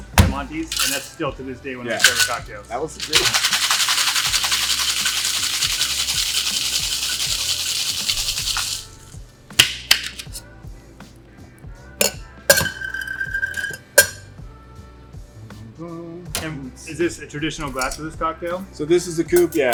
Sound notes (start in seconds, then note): 2.9 cocktail shaker shakes; 9.5 cocktail shaker bangs